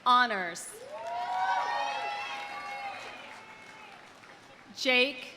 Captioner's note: audience cheering; audience applauding